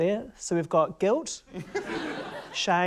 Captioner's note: laughter